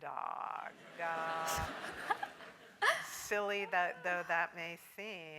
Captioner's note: laugh